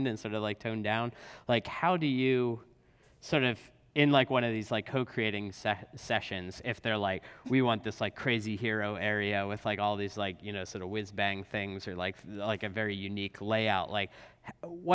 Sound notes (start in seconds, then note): none